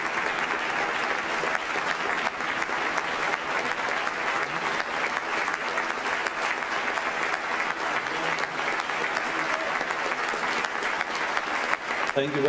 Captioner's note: applause